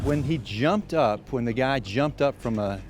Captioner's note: whooshing